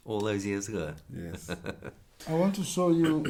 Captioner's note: chuckles